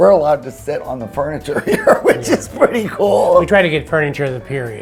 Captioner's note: laughs